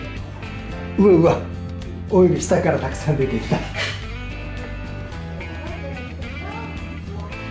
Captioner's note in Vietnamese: cười lớn